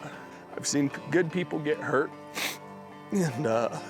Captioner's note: sniffs